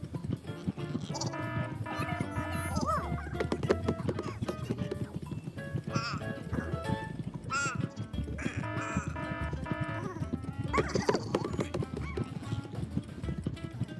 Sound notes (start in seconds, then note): 0.0 game music; 0.9 sheep bleating; 1.2 alarm ringing; 3.6 sheep bleating; 8.5 alarm ringing; 12.5 sheap bleating